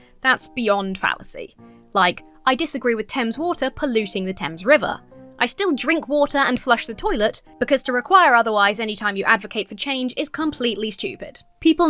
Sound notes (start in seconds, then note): none